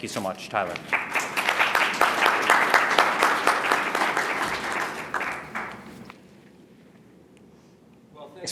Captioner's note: applause